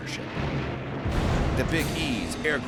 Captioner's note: explosion